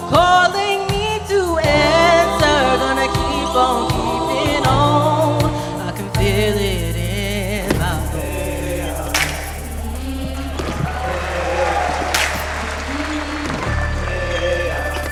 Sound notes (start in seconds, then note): 10.7 audience cheering